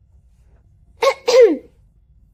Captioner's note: ahem